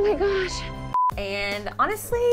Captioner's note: monotonous high pitch sound